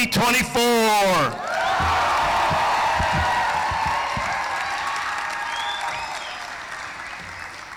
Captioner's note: cheering; applause